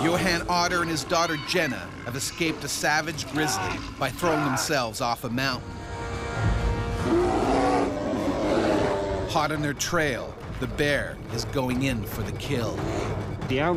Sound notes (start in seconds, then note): 0.0 bear growling; 0.4 voiceover; 6.9 bear growling